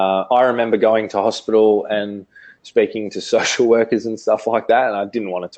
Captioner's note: laughs